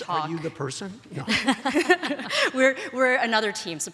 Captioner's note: laughs